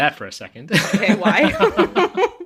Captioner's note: laughs